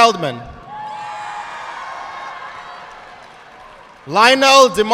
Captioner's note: audience clapping